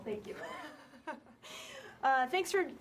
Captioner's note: laughter